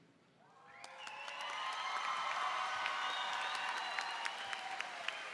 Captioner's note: applause and cheering